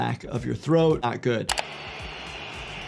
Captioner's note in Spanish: clics del ratón; multitud aplaudiendo